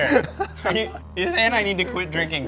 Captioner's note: laughing